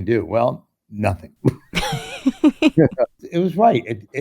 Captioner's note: laughter